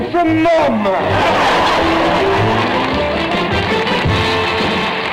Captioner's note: audience laughter